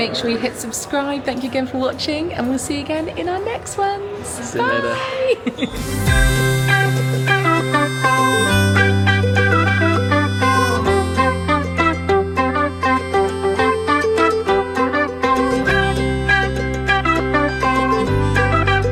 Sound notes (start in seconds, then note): 4.8 giggles; 6.1 bright music; 15.2 bright music continues